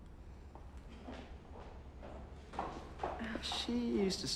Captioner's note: shoes clacking